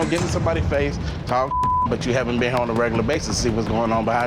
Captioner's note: beep